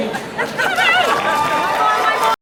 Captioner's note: clapping